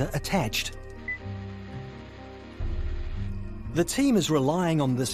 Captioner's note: transmitter buzzing